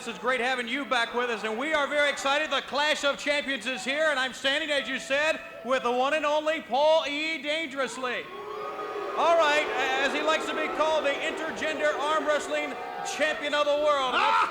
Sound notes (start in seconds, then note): 8.2 crowd booing; 14.3 Paul laughing